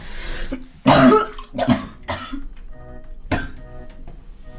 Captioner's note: barfing noises